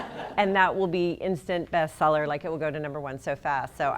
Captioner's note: laughter